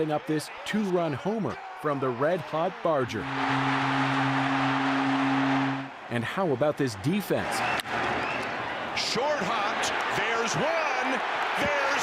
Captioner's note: cheering